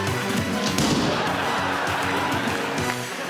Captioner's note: gunshot